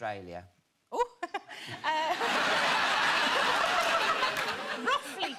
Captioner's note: audience laughing